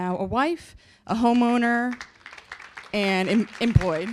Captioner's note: applause